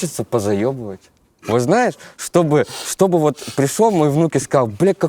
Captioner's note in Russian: давится смехом